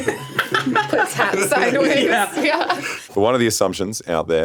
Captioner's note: laughs